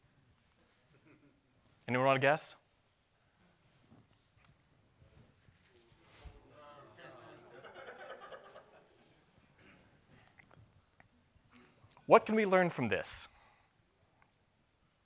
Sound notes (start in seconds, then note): 5.5 random shouts from the audience